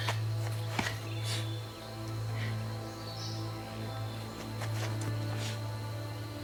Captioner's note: somber music; Max sobs